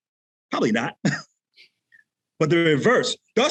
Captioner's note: chuckles